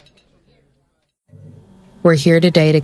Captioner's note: soft crying, florescent lights buzz; cafeteria fades out